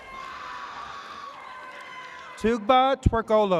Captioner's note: spectators screaming